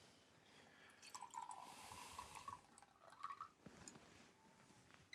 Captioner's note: liquid sloshing